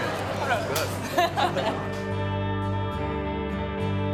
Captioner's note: laughs